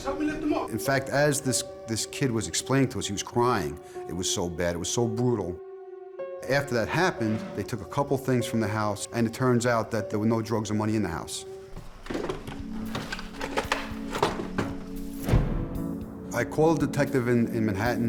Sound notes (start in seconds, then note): 11.6 objects clattering